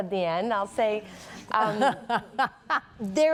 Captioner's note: laughter